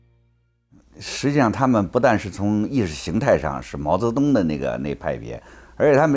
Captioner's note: speaks in foreign language